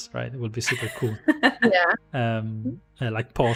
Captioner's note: laughs